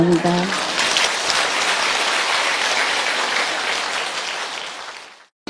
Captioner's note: audience Laughter/Applause